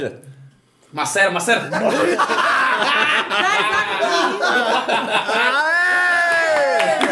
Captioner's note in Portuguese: risos